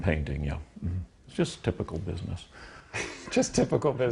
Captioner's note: laughs